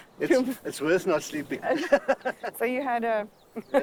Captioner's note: laughing